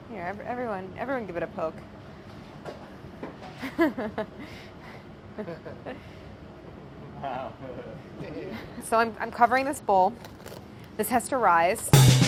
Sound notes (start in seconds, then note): 3.6 chuckles; 7.5 all chuckling; 11.9 upbeat jazzy music